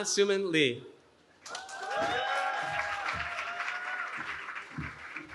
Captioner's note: cheering